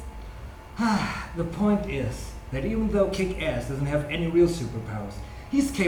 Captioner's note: sigh